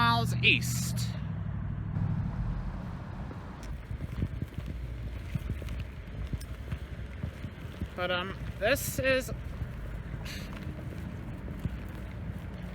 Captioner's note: indistinct chatter and traffic